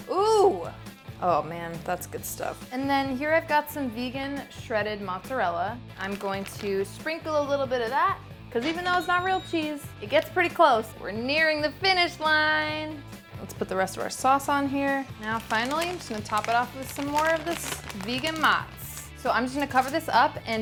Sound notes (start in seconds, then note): 9.3 cash register chimes